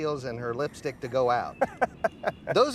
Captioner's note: Aaron laughs